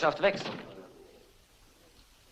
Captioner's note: door closes